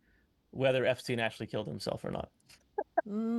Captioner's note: chuckling